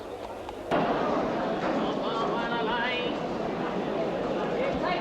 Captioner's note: crowd chattering